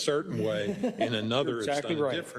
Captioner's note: laugh